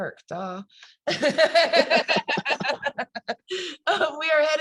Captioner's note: both laugh